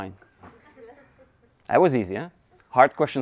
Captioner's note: audience laughing